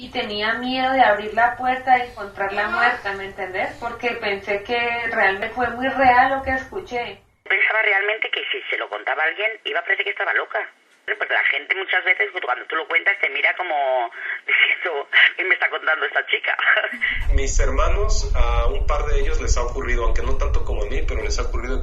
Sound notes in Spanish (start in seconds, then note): 16.8 se ríe